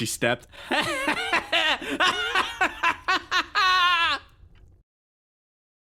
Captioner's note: Etete Laughs Maniacally